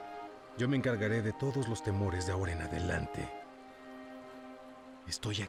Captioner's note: none